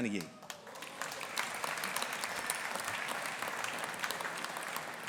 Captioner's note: audience applauding